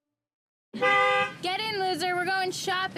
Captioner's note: horn honking